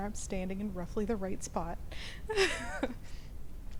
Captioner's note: chuckles